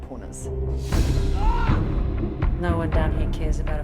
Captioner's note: man screams